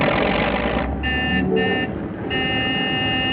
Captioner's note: honking